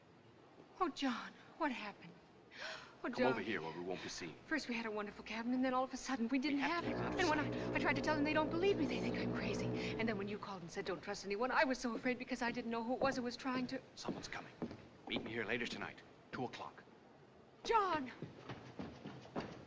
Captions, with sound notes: Oh, John, what happened? Oh, darling. Come over here where we won't be seen. First we had a wonderful cabin, and then we didn't have it. When I try to tell them, they don't believe me. They think I'm crazy. When you called and said don't trust anyone- I was so afraid. I didn't know who it was that was trying to- - [Footsteps] - Someone's coming. Meet me here later tonight- 2:00. John!